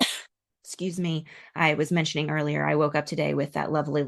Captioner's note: coughs